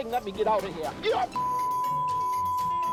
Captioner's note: beep